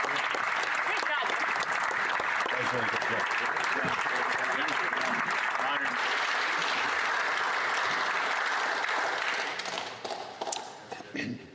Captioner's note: applause